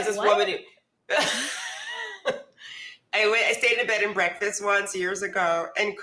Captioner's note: laughs